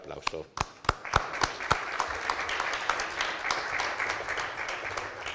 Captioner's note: applause